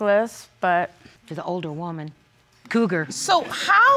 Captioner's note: audience laughing